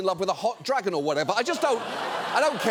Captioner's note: audience laughs